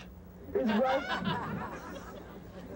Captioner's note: laughter